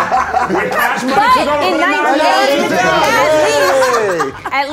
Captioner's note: laughing; overlapping chatter